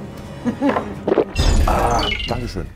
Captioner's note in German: Lachen